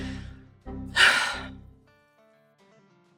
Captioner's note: sigh